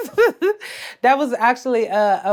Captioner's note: Treasure laughs